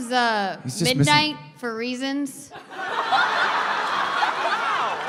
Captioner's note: laughter